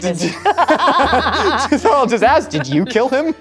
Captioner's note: both laughing